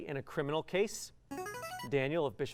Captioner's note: buzzer